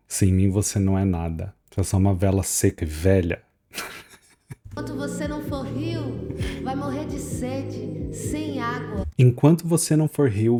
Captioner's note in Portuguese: risadas